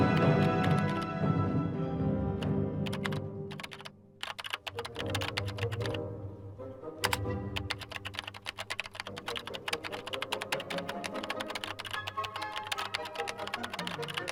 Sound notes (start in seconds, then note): 0.0 dramatic music; 4.2 keys clicking